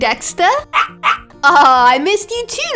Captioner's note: dog barking